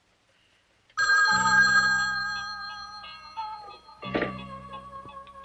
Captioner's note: telephone ringing